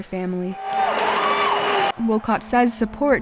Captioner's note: crowd cheering